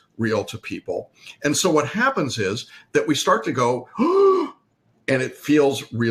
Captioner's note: gasps